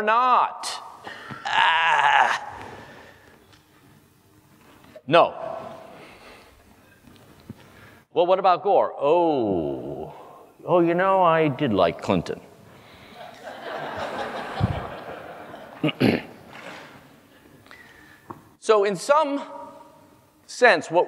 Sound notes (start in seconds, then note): 12.4 cough; 13.2 laugh